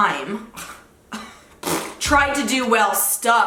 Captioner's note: scoffing